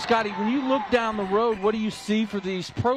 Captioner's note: applause